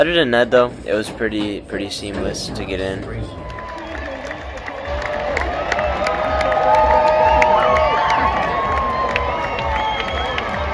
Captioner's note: applause and Cheering for Drivers Parade